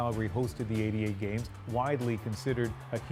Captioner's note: cheers and Applause